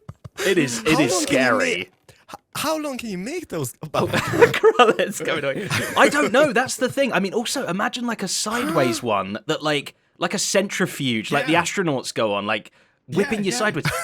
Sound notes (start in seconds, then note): 3.9 laughs